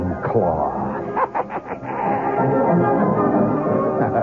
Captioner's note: laughter